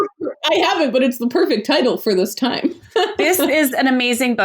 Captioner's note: laughs